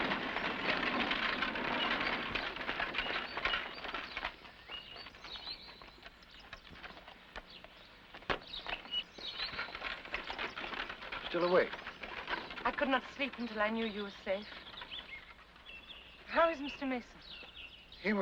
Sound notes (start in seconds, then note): 0.0 carriage clattering; 4.4 birds chirping; 8.2 feet thump; 9.9 carriage clatters away